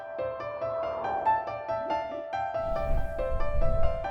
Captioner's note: light whooshing